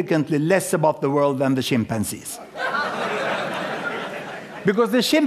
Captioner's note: laughter